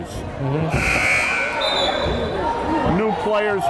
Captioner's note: timer buzzes